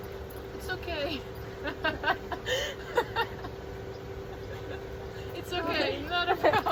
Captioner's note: laughs